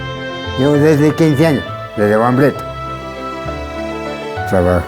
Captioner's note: speaks Spanish